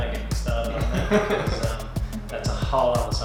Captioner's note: laughter